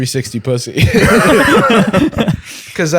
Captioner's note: laughter